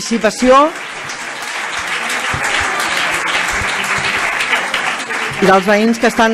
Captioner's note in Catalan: aplaudiments